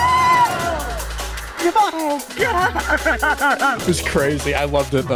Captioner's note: laughs